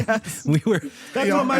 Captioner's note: laughter